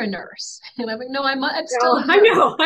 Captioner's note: laughs